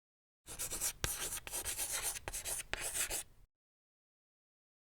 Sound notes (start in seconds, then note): 0.5 chalk clacks on chalkboard